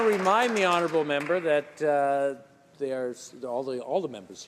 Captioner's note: some applause